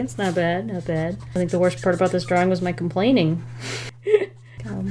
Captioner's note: chuckles